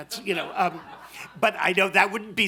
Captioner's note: laughter